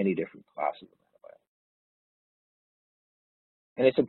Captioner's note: audio distorts